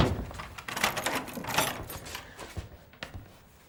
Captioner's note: key turns in lock